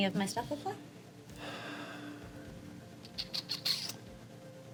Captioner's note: sighs